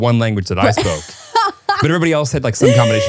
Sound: laughing

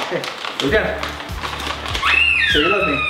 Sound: dog toy squeals

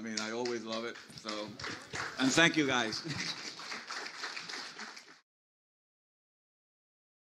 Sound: audience applauds

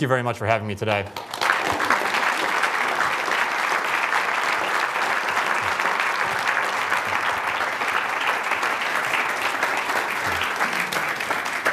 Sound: applause

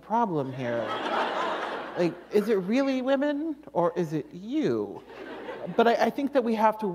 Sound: laughter

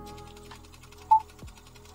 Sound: projector whirring; beeping

